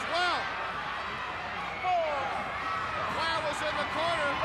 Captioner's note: crowd cheering